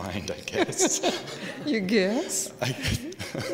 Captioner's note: laughing